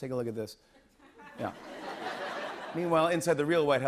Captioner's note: laughter